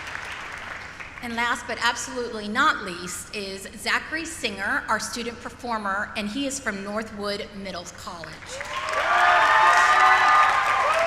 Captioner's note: applause; cheering